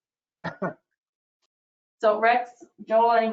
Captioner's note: male chuckles